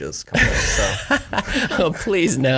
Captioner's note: laugh